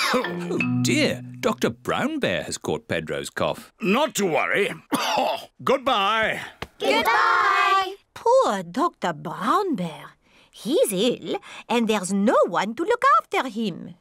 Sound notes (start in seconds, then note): 4.7 coughs